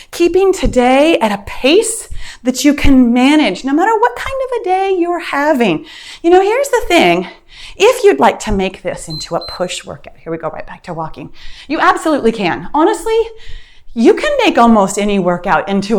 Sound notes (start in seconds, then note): 9.0 timer beeps